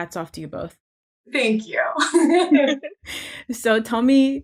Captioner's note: chuckles